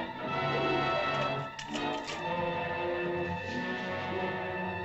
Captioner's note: suspenseful music; tree crackles; suspenseful music